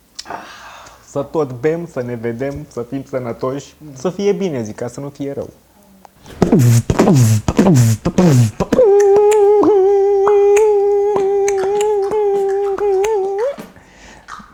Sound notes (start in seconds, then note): 6.7 beatboxing